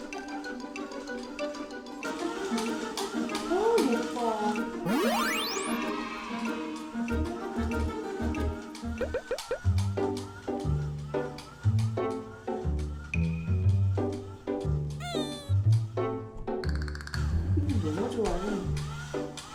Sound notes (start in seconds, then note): 9.0 bubble